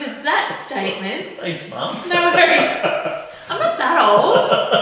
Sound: laughing

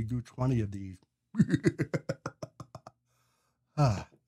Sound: laughs

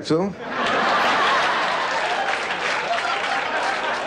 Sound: laughter

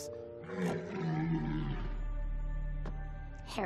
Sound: low growling

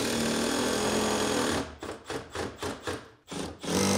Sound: drilling in screws

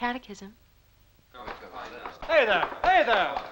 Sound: voices clamoring

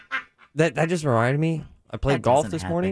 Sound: laughing

